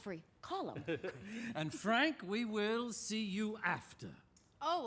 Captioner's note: chuckles